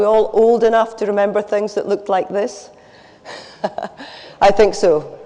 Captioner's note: laughs